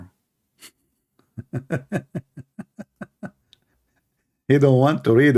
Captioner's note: Ketawa